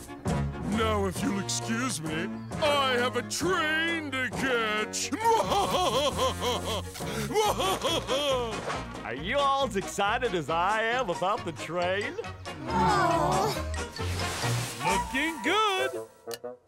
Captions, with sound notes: Now, if you'll excuse me, I have a train to catch. [laughing] Are you alls excited as I am about the train? No. Looking good.